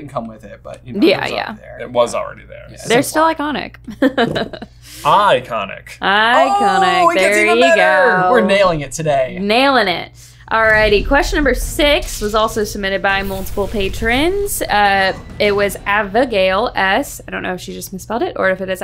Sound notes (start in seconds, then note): 4.8 laughing